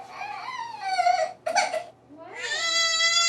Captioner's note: baby starts to cry